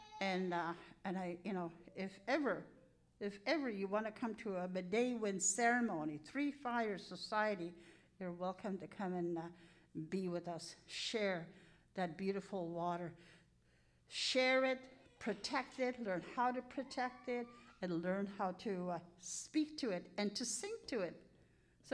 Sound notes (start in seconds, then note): 4.7 speaking in Cree